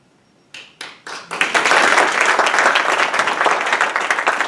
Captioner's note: audience applauding